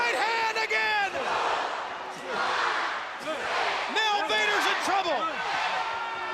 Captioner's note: crowd chatter